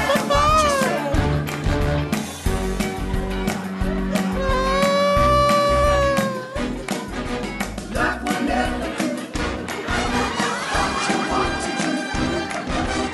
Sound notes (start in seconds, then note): 4.2 sobs; 7.3 music warps; 10.3 audience laughs